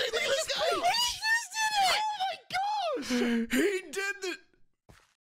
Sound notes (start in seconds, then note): 3.0 inhale